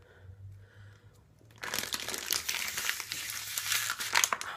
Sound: bottle crushing sound; exhausted breathing

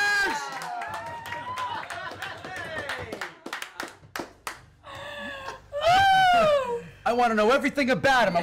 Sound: well-earned applause and cheers

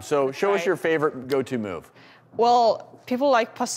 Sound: murmurs

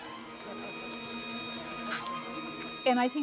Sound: squishing

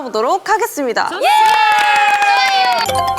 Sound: applaud

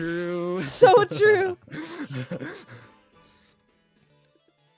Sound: laughs

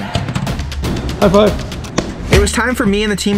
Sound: hand taps

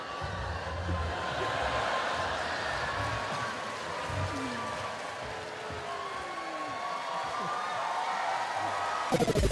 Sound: crowd laughing; crowd cheering; energetic techno music

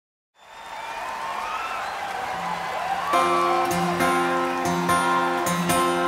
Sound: audience cheers; guitar intro

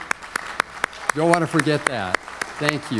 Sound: applause

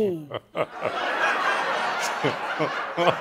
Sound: chuckling

